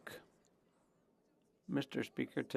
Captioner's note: speaking French